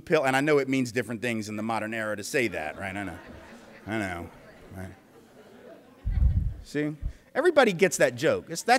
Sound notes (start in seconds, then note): 5.0 polite laughter